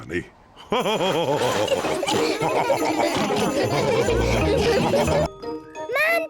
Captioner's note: all laugh